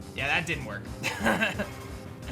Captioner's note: laughs